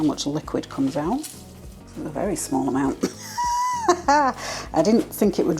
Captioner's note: laugh